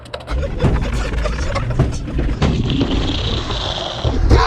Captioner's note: laughing